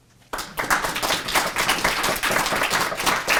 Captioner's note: applause